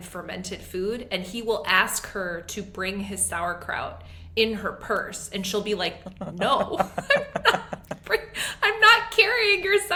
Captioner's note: laughs